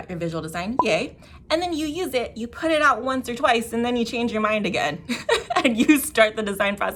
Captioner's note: giggle